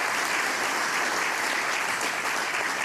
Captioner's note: applause